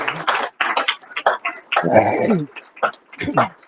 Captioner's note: applause